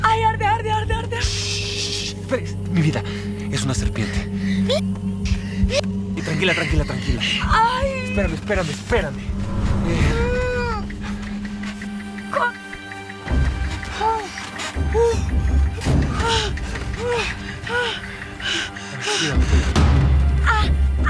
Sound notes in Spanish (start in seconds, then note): 7.0 Quejidos